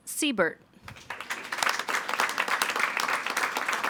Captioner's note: all applauding